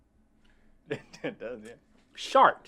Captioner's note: laughs